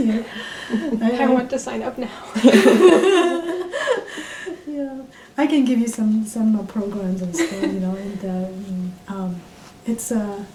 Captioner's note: all laugh